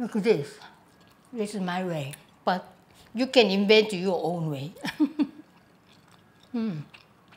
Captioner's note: laughs